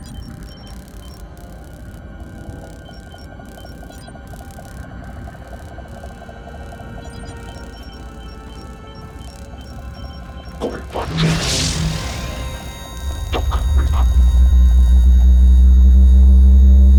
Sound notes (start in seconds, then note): 10.9 robot speaks